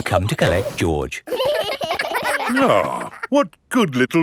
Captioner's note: giggling